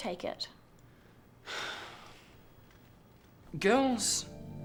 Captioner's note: sighs